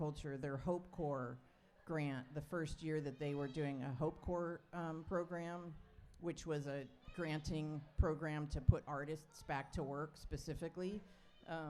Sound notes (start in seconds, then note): none